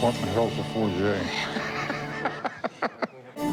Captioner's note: laughs